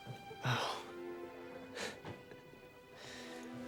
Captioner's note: scoffs